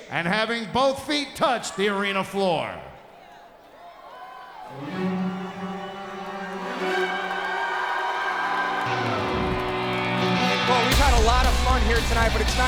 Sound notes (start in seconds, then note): 5.2 crowd cheers; 5.2 triumphant rock music